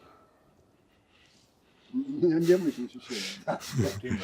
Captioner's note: laughing